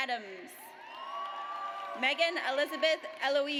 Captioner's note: audience cheers